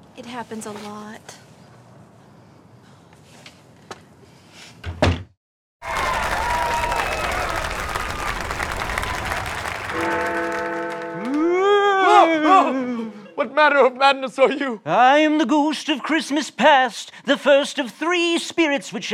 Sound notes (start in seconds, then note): 10.0 bells ringing; 11.9 sounds of alarm